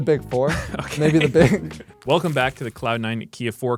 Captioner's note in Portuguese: risos